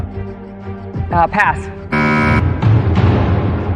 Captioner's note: buzzer sounds